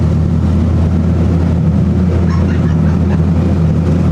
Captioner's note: laugh